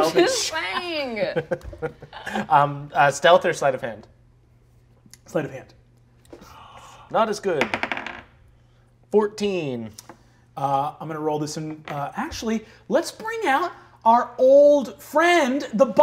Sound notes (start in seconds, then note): 6.4 gasps; 7.7 dice clatter